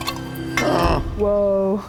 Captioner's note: groans